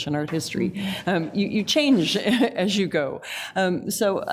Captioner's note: laughs